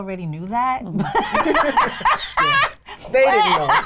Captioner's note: laughing